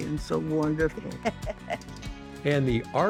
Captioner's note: laughing